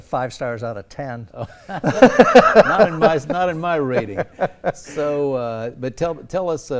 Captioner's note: laugh